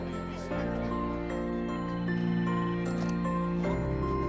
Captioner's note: telephone rings